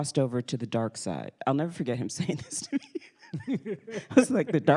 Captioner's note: laughs